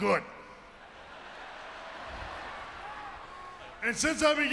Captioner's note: audience laughing